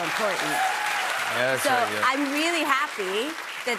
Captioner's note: cheers and applause